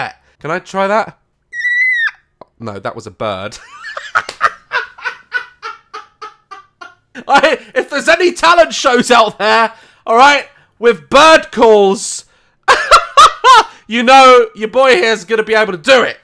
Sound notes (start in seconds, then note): 1.5 squeal; 3.6 laughs